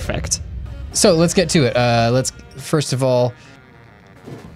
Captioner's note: pat